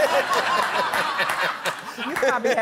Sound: laughter

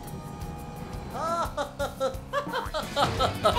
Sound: laughing

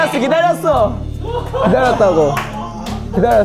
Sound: laughing

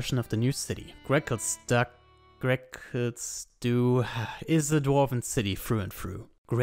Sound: sighs

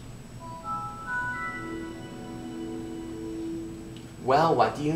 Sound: Windows 7 startup sound plays

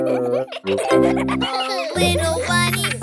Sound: kids chuckling

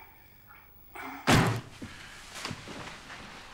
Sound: briefcase slams

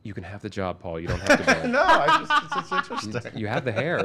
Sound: everyone laughs

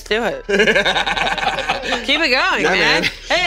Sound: laughing

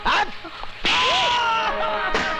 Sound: slap

